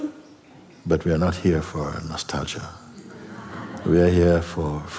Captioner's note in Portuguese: risos